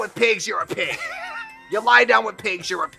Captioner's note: Katya laughs